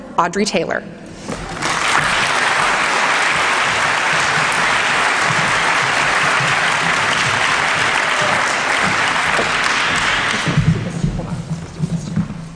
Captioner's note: applause